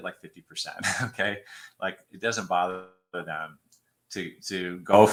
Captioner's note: laughter